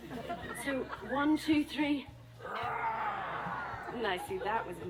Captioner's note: roar!!!